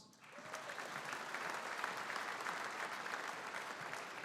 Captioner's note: audience applauding